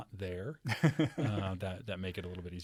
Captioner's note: laughs